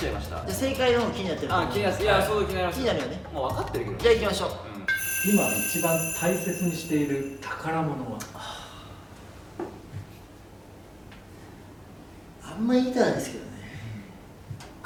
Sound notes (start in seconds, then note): 8.5 sighs